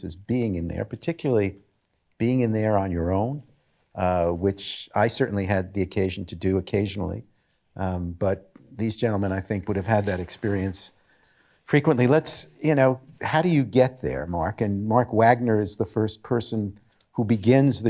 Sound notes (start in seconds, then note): none